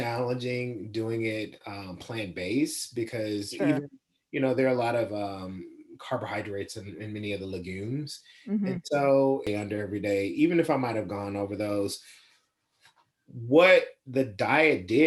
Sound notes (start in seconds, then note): 8.7 laughs